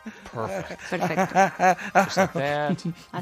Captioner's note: laugh